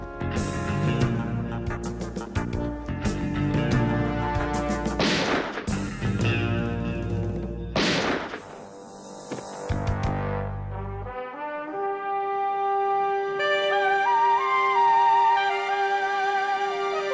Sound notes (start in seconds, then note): 0.2 dramatic music; 4.9 gunshot blasting; 9.4 dramatic music continues